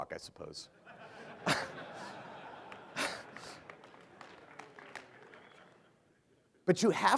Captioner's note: laughter